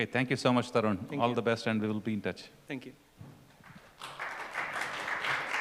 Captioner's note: applause